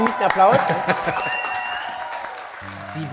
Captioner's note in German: Jubel, Applaus